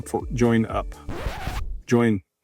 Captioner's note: tape rewinds